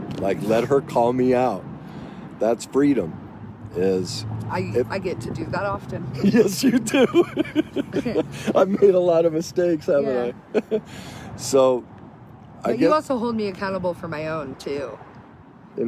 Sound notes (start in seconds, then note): 6.2 laughs; 10.1 laughs